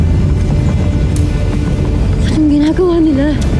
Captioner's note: fire crackling